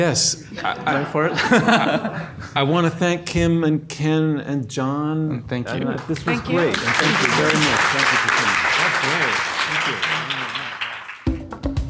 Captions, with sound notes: - Yes. (audience laughs) I wanna thank Kim and Ken and John. - And thank you. - This was great, and thank you very much. (audience applauds)